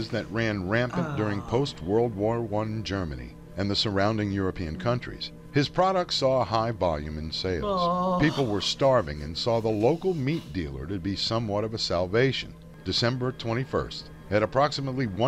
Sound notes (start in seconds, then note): 7.3 groans uneasily